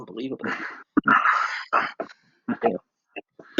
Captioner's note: laughs